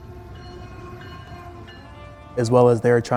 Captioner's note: train bells